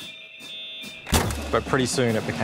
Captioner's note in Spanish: pitidos de módem; sonido de puñetazo